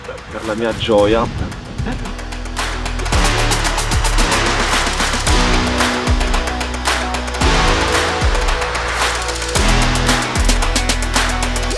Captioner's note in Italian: Applauso